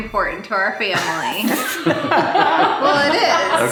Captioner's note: laughing